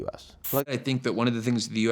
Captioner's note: screen hissing